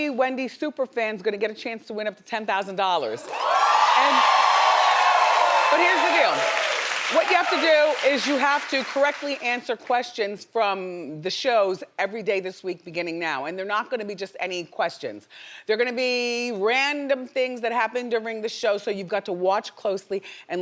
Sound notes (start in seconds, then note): 3.2 audience applauding and cheering